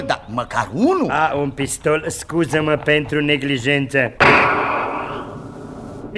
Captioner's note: gunshot